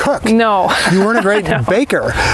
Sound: laughs

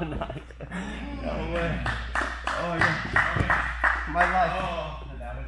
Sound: laughing; spectator applauds

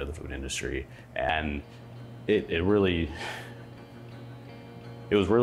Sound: laughing

